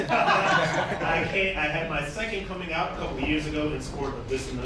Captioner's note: laughter